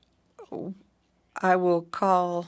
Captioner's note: speaking French